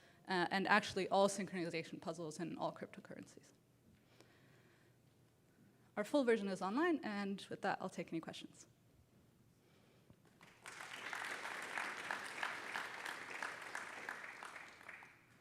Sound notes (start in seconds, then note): 10.2 applause